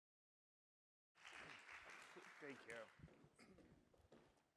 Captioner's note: audience applauds